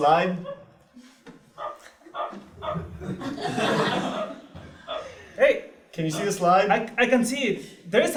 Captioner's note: laugh